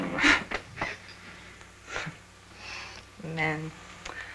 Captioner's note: scoffs